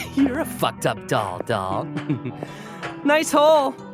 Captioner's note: sneers